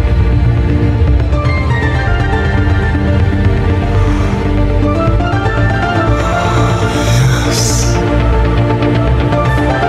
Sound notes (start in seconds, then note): 3.7 inhale; 5.4 exhale